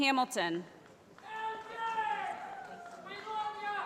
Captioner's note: voiceover